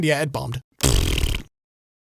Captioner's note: blows raspberry